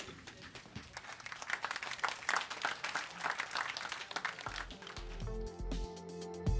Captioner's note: applause